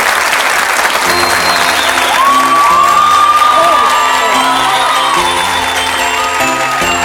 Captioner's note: audience cheering; holiday music